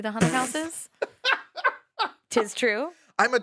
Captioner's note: laughs